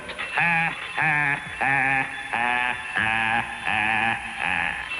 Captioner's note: laughing manically